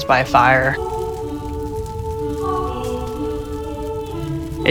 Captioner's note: fire sizzling